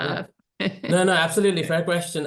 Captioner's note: laughs